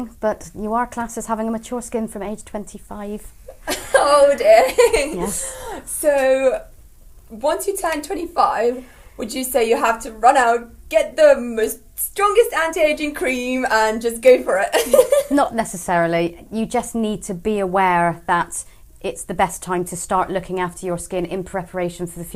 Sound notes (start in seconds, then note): 3.6 laugh